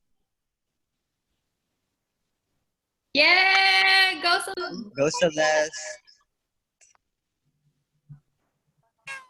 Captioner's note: cheering